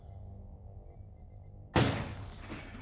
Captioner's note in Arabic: طلقات نارية